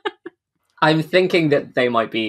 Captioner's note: laughing